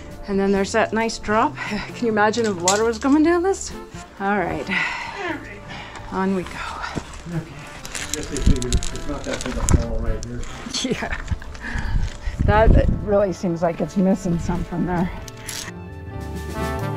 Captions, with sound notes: and then there's that nice drop Can you imagine if water was going down this? All right. All right. On we go I guess they figure it's not that big a fall right here Yeah [laughter] That really seems like it's missing something there